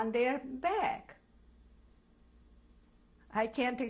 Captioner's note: pauses for 3 seconds